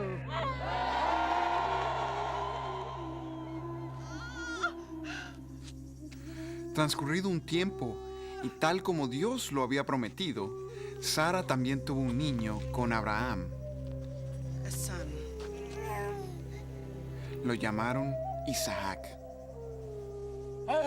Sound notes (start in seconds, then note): 0.0 gente vitoreando; 4.0 mujer llorando